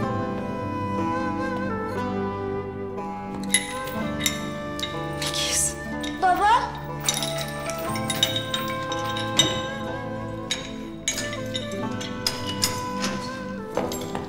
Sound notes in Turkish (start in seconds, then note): 3.2 Zincir sesi; 7.5 Zincir açılma sesi